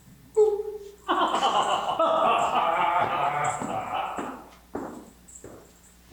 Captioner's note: more sinister laughter